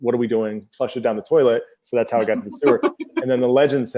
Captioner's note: laughs